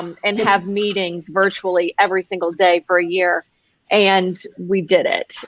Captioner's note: laughs